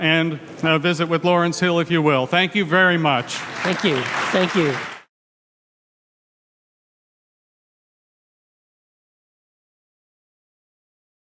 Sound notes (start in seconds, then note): 3.1 audience applauds